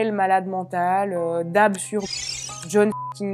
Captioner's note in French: bip